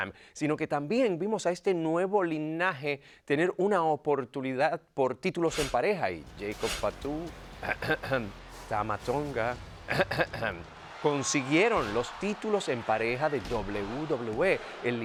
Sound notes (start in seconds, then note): 9.9 cough